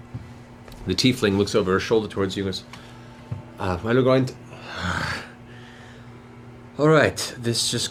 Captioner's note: groans